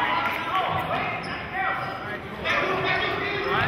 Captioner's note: yelling